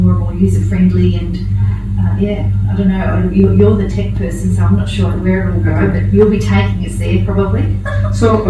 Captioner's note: chuckles